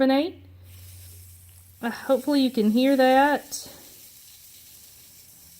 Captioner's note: fizzes